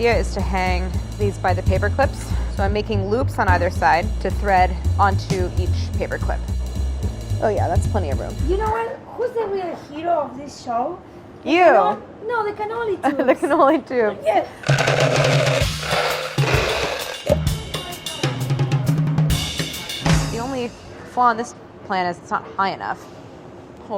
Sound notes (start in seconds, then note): 13.0 laughs; 14.7 ball bearings clatter; 16.4 upbeat percussion music